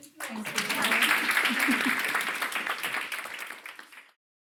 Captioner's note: audience clapping